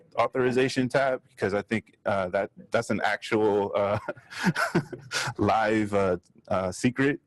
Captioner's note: laughs